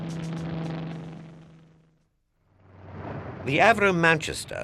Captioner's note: plane roaring